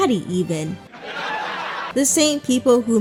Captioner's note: music stops, audience laughter